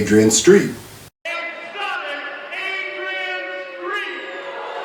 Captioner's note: crowd noise